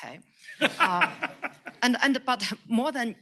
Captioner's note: laughs